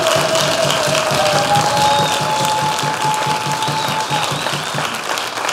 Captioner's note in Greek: χειροκροτημα